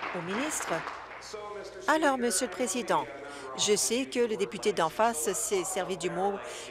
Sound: applause

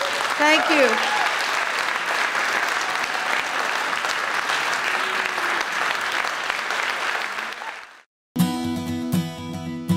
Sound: applause

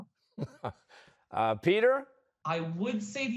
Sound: chuckles

